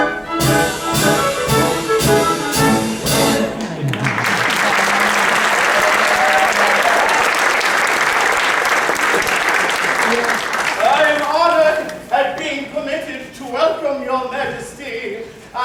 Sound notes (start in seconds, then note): 0.0 music concludes jauntily; 3.6 applause